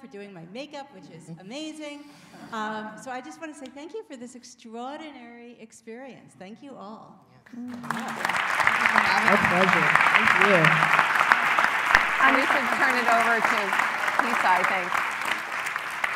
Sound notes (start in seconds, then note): 7.5 applause